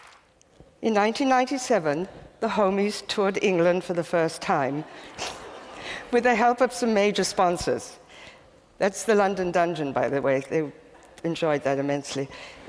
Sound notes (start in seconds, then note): 4.9 chuckles